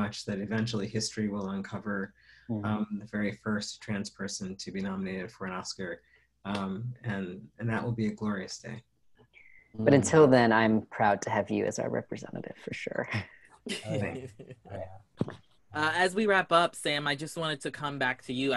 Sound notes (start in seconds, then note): 13.6 laughter